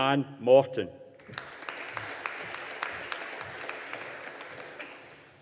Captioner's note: audience applauding